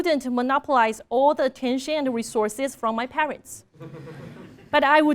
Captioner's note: laugh